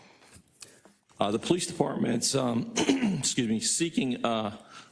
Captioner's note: cough